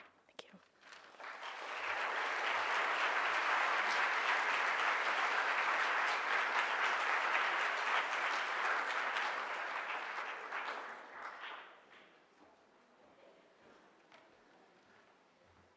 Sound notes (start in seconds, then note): 1.6 audience applause